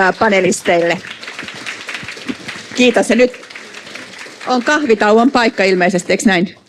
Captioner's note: Aplodeja